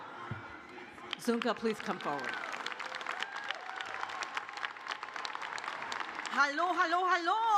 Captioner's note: cheers and applause